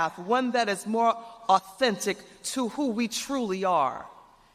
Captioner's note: none